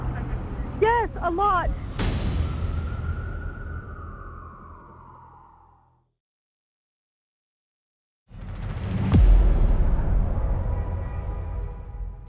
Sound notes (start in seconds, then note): 2.9 sirens wailing; 8.3 dramatic music